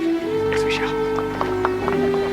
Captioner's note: Aplausos